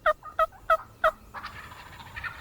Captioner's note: turkey call; turkeys gobbling